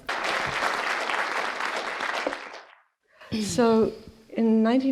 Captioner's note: applause